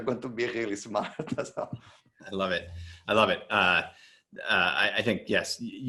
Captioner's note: laughs